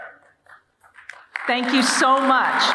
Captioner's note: audience applauding